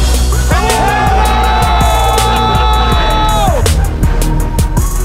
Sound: crowd cheering

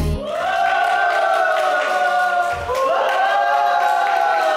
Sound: cheering

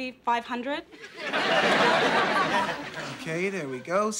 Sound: audience laughing

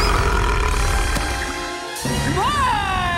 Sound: burping

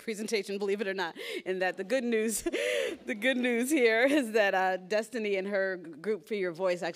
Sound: laughs; laughs

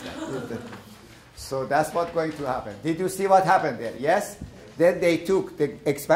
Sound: laughter

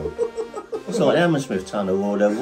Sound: laughing

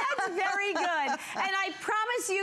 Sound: laughter

